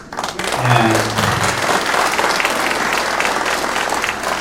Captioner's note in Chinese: 掌声